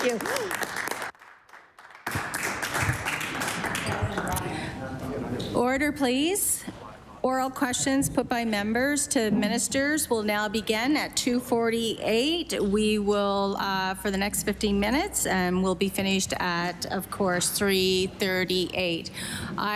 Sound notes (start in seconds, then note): 4.8 applause